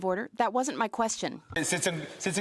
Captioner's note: speaking French